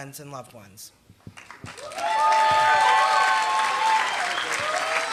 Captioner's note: applause